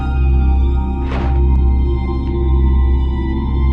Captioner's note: thudding